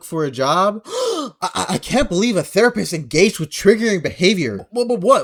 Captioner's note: gasps